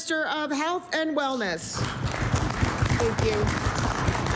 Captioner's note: applause